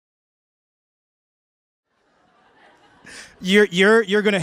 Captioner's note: laughter